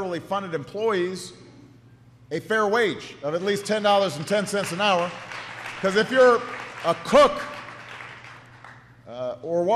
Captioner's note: applause